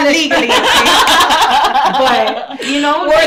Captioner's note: laughing